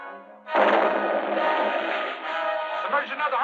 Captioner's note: explosion booming